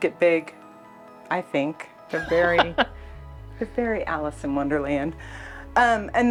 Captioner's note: laughs